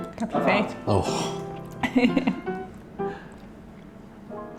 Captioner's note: laughing